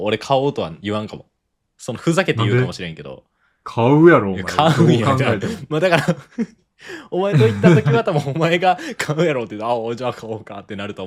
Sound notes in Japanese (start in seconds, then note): 7.3 笑い